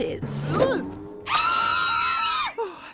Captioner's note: screaming